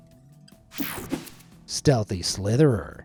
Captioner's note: screen buzzes and whooshes